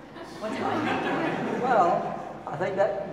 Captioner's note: audience laughing